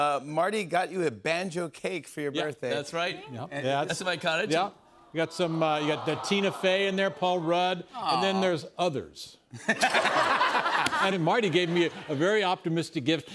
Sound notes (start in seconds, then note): 5.2 audience aws; 9.5 laughter